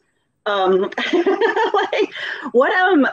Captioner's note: laughing